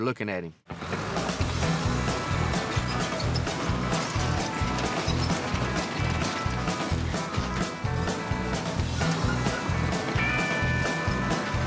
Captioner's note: engine running